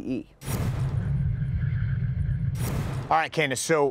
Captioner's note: metal against metal